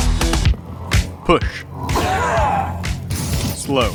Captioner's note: yelling